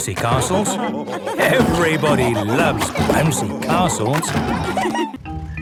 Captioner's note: laughter